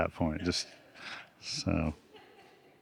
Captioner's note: audience laughing